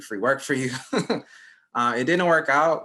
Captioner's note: chuckles